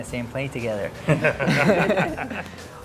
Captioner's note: laughs